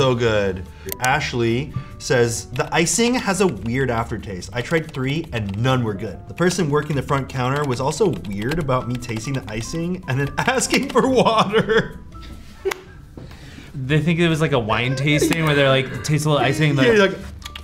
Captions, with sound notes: - So good. Ashley says, "The icing has a weird aftertaste. I tried three and none were good. The person working the front counter was also weird about me tasting the icing and then asking for water." [laughs] - They think it was like a wine tasting where they're like, taste a little icing, and be like. - Yeah, you're like.